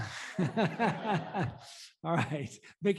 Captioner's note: laughter